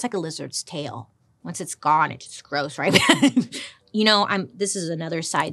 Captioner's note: laughs